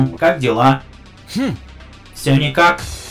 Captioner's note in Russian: звук менее агрессивного "Хм!"